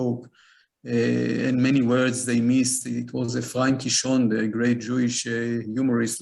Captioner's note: foreign language